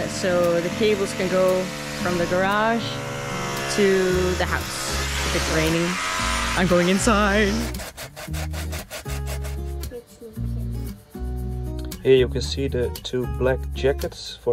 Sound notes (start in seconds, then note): 7.8 mellow music; 10.1 child speaking in Dutch